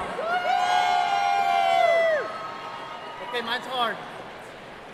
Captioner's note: cheering